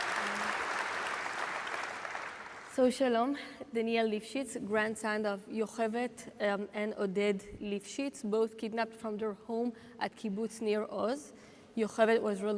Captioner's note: applause